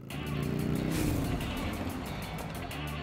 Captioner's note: Bike sound